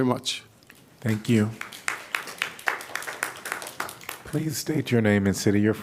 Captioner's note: applause